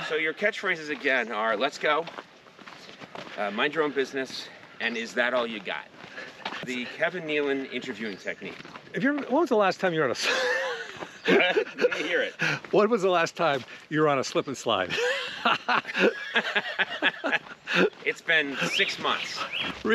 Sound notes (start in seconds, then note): 10.1 Kevin laughs; 14.8 both laughing